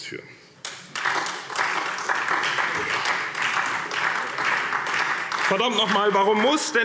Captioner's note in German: Beifall SPD